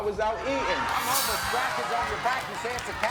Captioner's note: laughing